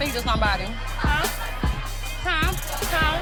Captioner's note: people laughing